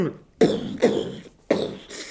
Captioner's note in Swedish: poff